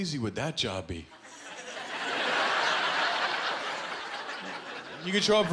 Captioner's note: laughter